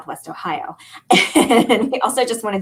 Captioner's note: laughter